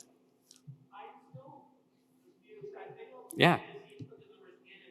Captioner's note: speaker speaking faintly